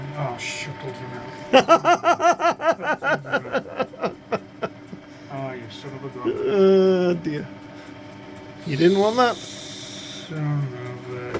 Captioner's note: laughing